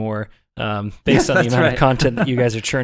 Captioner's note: laughing